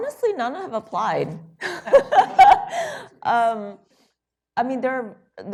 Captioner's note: laughter